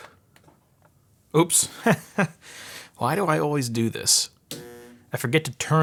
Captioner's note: laughing